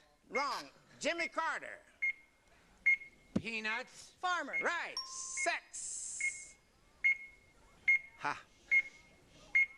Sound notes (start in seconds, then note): 1.5 buzzer; 4.9 bell